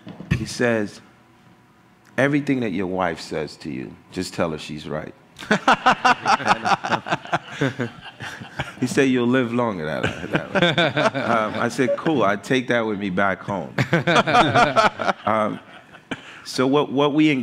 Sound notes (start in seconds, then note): 5.4 laughter